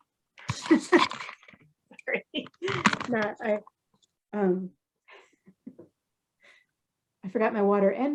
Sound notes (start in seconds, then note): 4.6 laughs